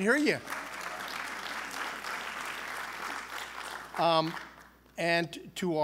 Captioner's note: applause